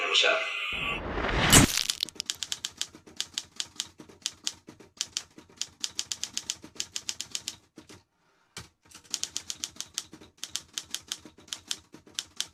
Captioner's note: typewriter clicking